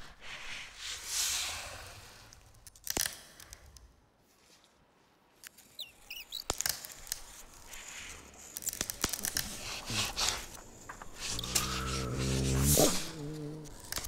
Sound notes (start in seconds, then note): 3.1 cracking; 5.7 chirping; 6.3 cracking